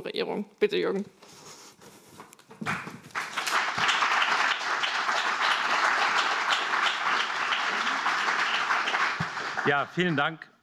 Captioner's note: applause